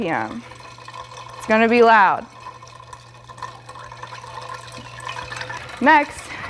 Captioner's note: ice cubes clinking